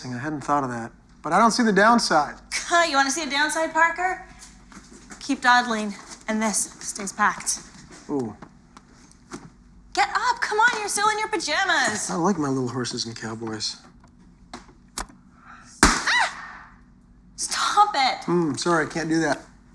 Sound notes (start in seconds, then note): 13.9 pops sharply